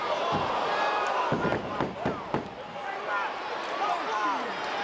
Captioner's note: crowd chattering